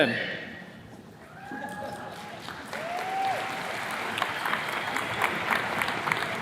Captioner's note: attendees cheers and claps